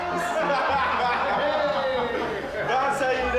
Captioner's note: William laughing